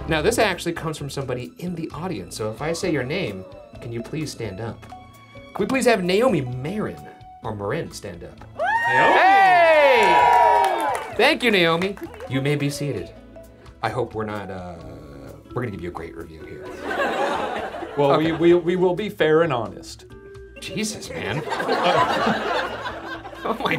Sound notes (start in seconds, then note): 8.6 audience cheering; 16.7 audience laughs; 21.2 audience laughs